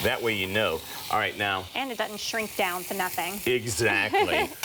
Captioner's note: laughs